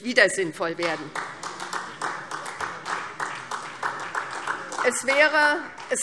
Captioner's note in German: Beifall SPD